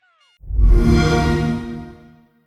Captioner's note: xbox sound